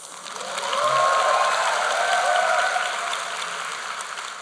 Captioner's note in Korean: 박수